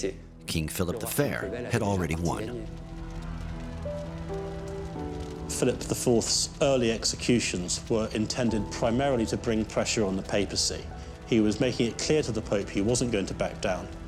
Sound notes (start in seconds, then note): 3.0 crowd cheers; 3.3 fire crackles